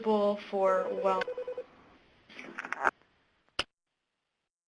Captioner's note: phone rings